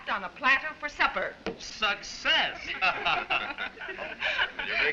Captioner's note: all laugh